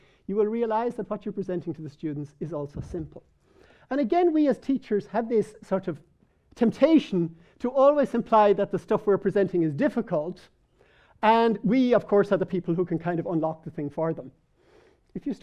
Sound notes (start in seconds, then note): none